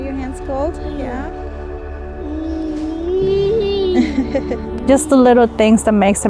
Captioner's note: vocalizing